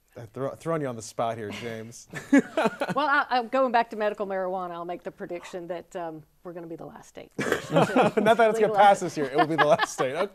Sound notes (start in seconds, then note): 2.2 laughs; 7.4 all laugh